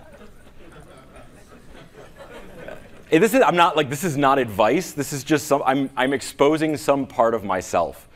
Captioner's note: laughing